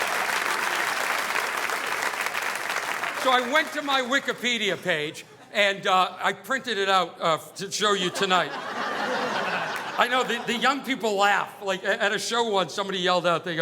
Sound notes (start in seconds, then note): 8.0 audience laughing